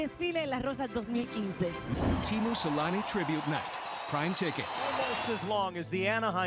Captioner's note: speaking spanish